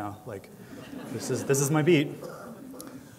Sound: laughter

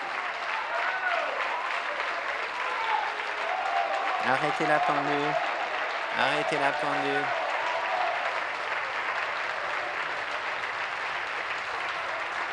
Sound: applause

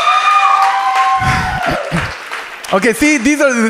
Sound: audience cheers

